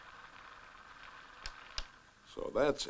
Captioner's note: projector clicks